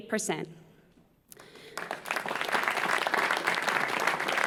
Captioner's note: applause